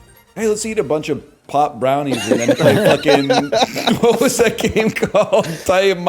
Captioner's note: chuckles; laughs